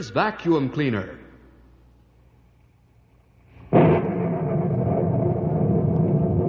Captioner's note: thunder